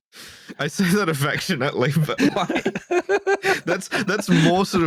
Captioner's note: laughter continues; laughter does not abate